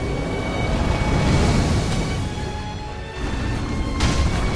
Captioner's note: fire whooshing